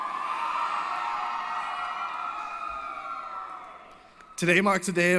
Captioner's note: applause & Cheering